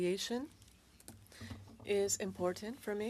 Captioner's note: speaking French